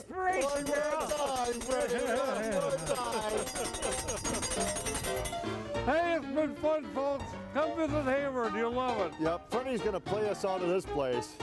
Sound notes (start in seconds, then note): 1.4 others laughing; 3.0 old-fashioned piano music; 11.1 old-fashioned piano music continues